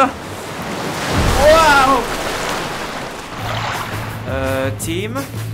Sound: waves crash

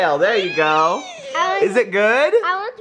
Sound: laughs; humming

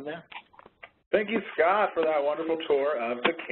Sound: voiceover

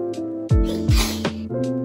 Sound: sneeze

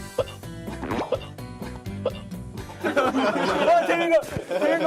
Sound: again! Hiccup

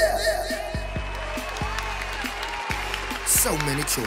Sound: applauses

